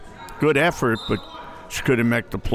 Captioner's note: whistle tweeting